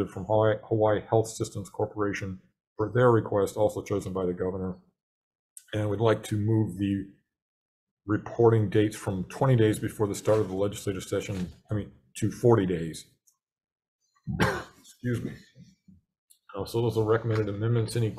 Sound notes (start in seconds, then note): 14.3 coughs